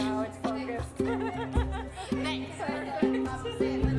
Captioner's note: guests laughing